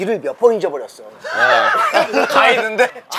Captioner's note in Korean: 웃음